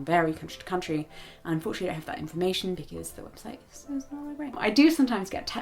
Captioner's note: quietly